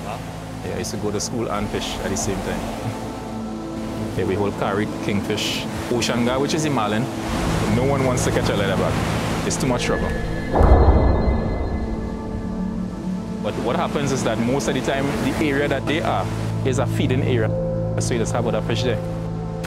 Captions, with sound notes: - Wow. - Yeah, I used to go to school and fish at the same time. Then we haul carite, king fish, ocean gar, which is a marlin. No one wants to catch a leatherback. It's too much trouble. (waves crashing) (dramatic music) But what happens is that most of the time, the area that they are is a feeding area. So you sample the fish there.